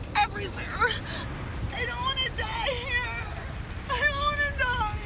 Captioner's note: crying